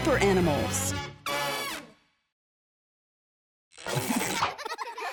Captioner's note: horn blowing; children laughing